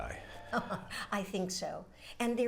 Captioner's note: chuckling